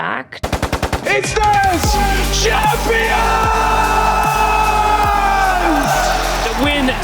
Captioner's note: crowd cheering